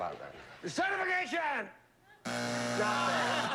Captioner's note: buzzer